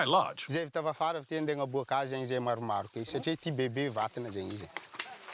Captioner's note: Malagasy spoken audio